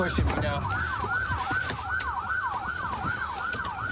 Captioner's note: sirens blaring